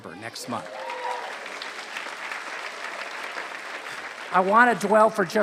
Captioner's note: applause